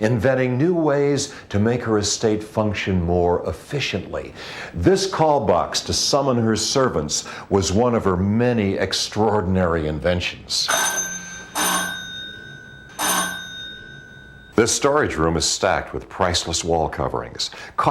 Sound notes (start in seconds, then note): 10.7 bell ringing